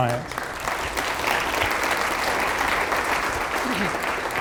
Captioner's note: applause